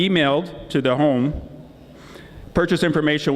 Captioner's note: none